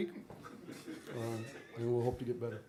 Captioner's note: laughter